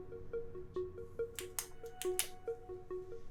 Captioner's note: pen clicking